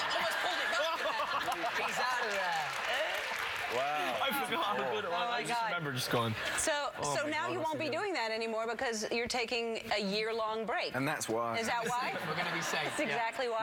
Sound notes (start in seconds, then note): 1.5 laughter